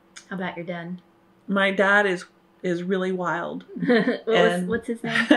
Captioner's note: laughter